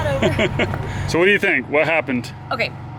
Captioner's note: chuckles